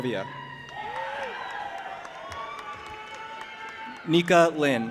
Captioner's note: audience applauding and cheering